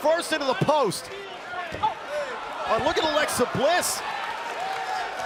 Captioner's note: crowd cheering